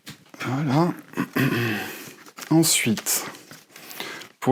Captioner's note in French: raclement de gorge